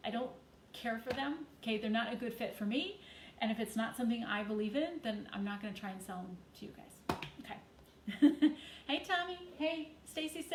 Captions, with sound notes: I don't care for them, 'kay? They're not a good fit for me and if it's not something that I believe in, then I'm not gonna try and sell 'em to you guys. Okay. (chuckles) Hey, Tommy. Hey.